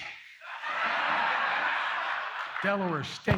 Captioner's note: laughter